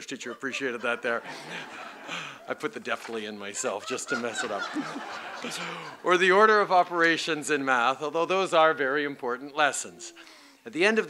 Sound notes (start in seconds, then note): 0.0 laughter